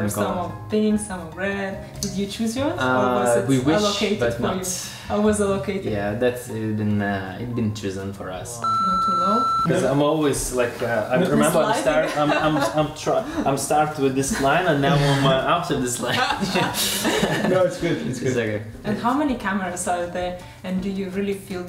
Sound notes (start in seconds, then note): 8.6 loud high-pitched tone plays; 11.6 laughs; 16.1 both laughing